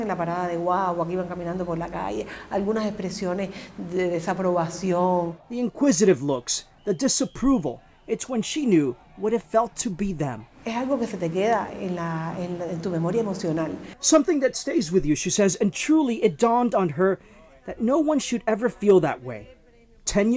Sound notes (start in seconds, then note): 8.3 speaking in spanish